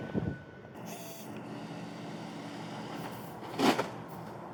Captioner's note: camera lens whirring